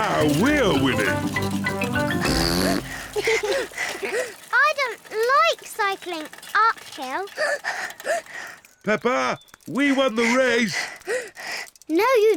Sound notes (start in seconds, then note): 0.0 chuckles; 2.1 blows raspberry and giggles; 7.4 panting